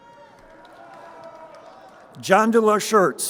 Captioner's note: crowd cheering